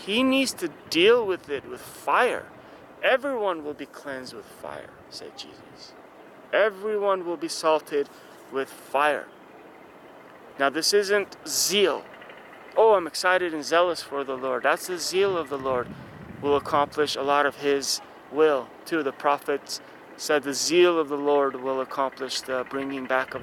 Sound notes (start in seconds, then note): 10.9 fire